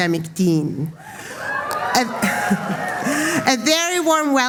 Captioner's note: applause